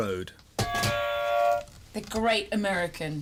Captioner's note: buzzer